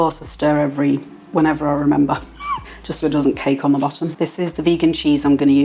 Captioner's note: laugh